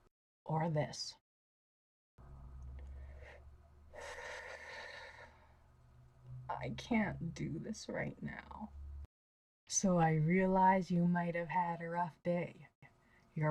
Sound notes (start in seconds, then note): 4.0 sigh